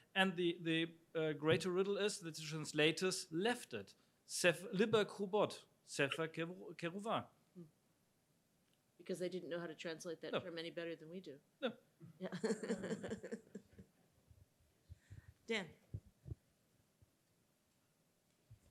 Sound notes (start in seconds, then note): 4.5 speaks in Hebrew; 12.3 laughs